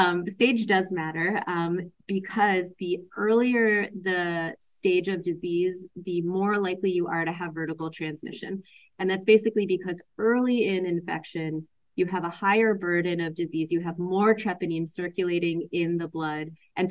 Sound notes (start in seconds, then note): none